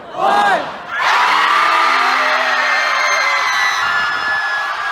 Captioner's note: aaaaaaaaaaaaaahhh